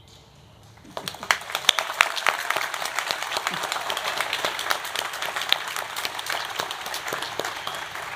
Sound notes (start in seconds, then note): 0.8 audience applauding